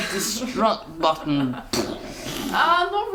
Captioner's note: imitates explosion